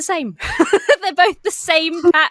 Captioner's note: laughs